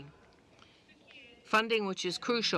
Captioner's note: speaking in French